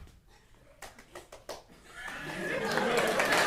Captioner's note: applause